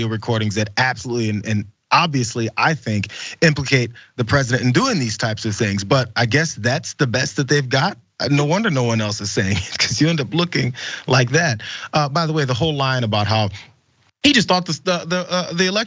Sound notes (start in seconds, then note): 9.2 laugh